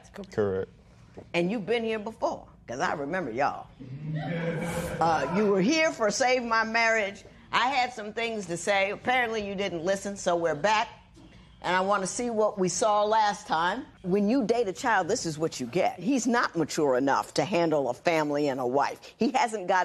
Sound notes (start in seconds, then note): 4.1 laughter